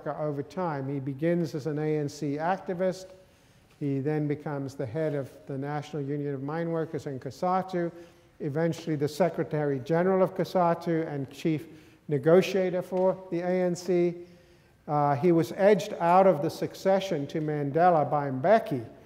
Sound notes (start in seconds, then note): none